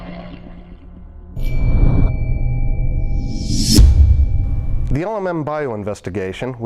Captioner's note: sound Effects